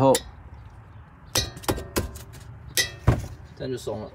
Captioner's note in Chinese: 敲敲敲